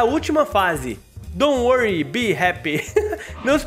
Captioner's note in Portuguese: risos